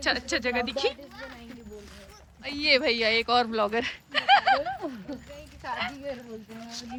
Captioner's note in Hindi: हंसी